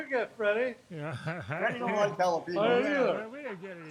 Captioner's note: laughs